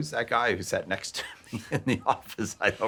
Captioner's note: laughing